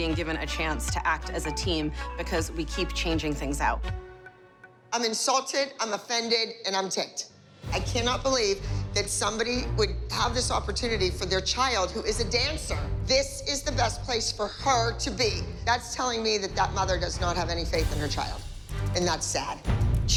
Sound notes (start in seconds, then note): none